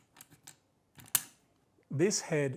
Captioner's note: silence